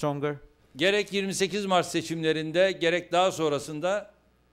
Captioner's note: non-english speech